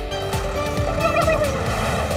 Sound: gobbling

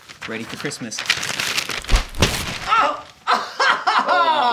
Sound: paper crumples

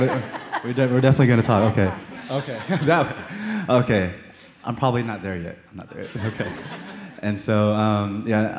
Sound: laughter; laughter

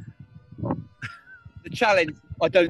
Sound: chuckles

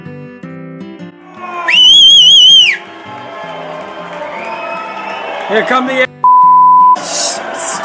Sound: whistles & cat calls from ship

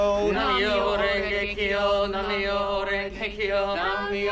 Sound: quickly chanting; chanting

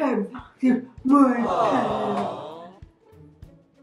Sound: studio audience aww

